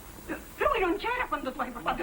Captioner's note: greek conversation